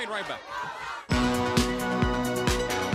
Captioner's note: crowd chatter